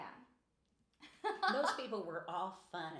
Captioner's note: laughing